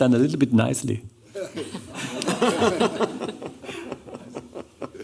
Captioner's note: laughter